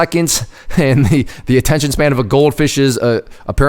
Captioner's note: laughs